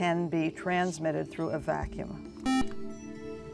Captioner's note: buzzer